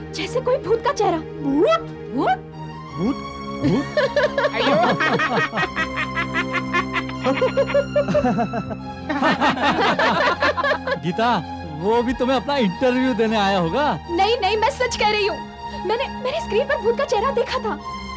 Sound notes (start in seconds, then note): 3.6 everybody laughing